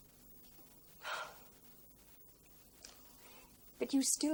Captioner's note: sighs